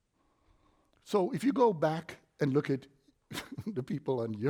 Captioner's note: chuckles